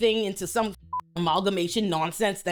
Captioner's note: beep